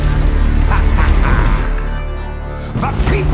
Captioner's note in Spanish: Risas